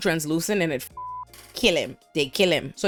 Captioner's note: beep